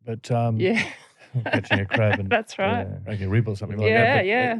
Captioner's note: laughter